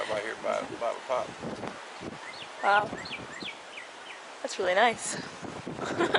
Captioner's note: laughs